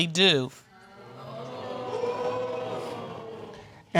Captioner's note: crowd